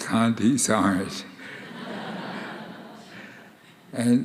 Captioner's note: audience laughing